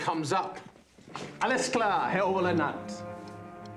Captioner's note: speaking german